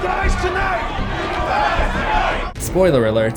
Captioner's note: crowd